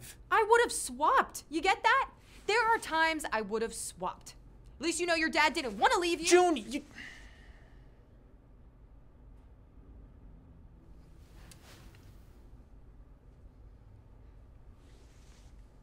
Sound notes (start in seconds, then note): 6.9 exhales heavily